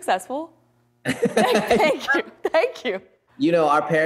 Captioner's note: both laugh